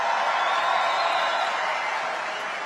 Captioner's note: crowd Cheering